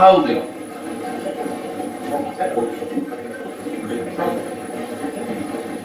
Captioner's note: static playback transmitting